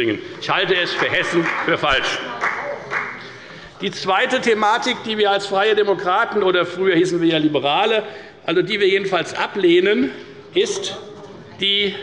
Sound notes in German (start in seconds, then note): 2.5 Beifall bei der FDP